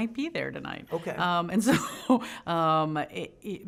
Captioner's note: laughing